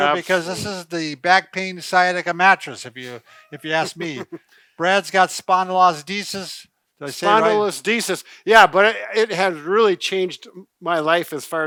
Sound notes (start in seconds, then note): 3.1 chuckles